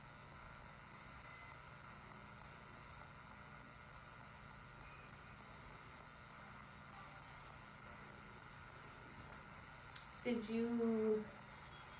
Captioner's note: more garbled static